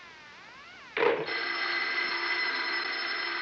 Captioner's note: phone ringing